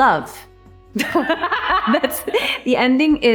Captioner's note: Anne laughing